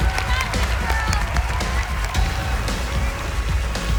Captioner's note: cheering